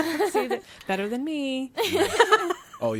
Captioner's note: laughing